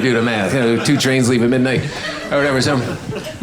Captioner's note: audience laughing